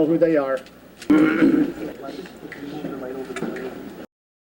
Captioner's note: clearing throat